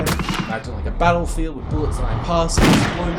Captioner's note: gunfire and battlefield sounds in background; gunefire and battlefield sounds in background; loud explosion